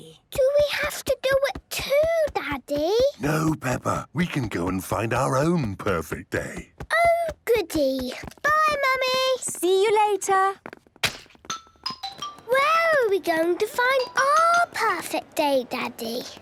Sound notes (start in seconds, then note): none